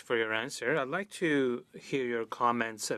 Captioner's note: speaking French